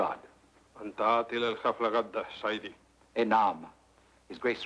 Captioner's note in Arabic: الكاهن يتكلم لغة أجنبية; يتحدث لغة أجنبية